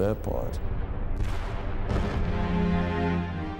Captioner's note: booming